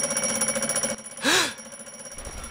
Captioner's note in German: Klingeln; Erschrecken